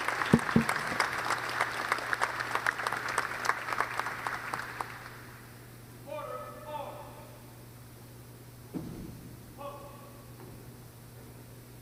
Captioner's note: applause